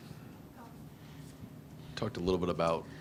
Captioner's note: lady speaks faintly